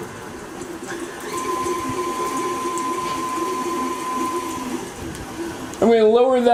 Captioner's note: mixing sound